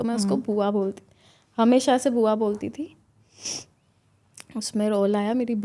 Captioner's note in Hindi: नाक से की जाने वाली आवाज़